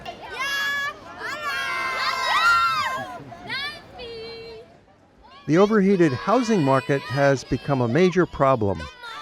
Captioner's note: kids cheer